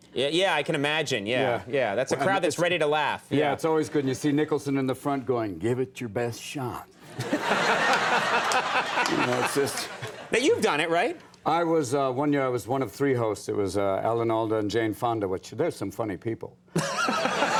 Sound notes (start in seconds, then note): 7.1 audience and Conan laugh